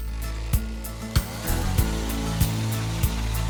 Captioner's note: auger motor running; upbeat guitar music